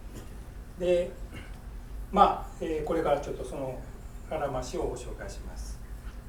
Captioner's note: speaking in foreign language